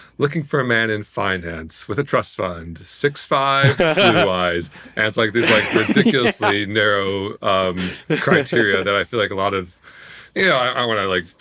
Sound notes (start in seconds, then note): 3.6 hosts laughing